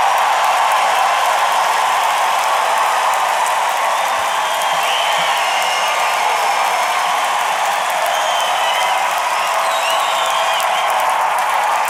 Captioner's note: applause